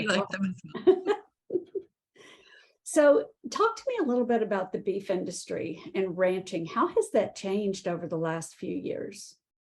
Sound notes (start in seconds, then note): 1.4 chuckling